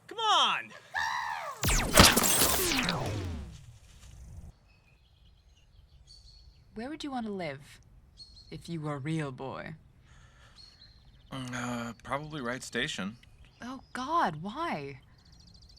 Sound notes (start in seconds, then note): 0.8 imitating bird; 1.6 distant laser shot